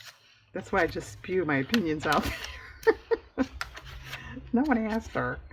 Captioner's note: laughs